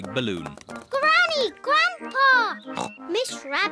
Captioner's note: oinks